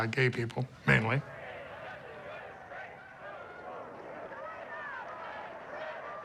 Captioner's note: people chanting